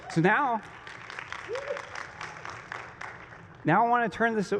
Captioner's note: applause